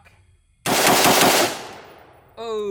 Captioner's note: steady firing